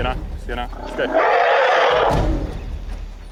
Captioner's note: roars